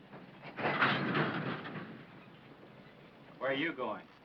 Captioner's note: cart clanking